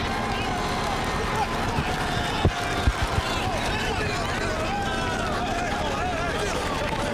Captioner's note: crowd chatter